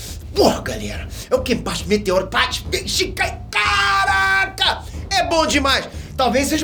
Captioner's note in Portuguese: surtando e falando rápido demais